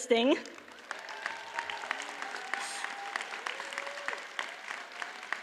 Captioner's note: audience cheers and applauds